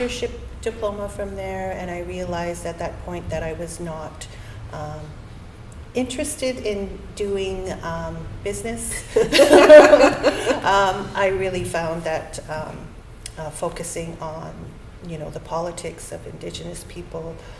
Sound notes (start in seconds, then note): 9.1 laughter